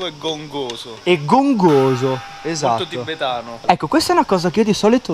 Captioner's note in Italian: gong